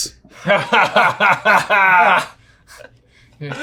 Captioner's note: laughing